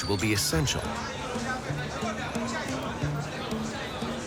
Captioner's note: chatter